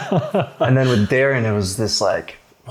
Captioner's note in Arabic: يضحك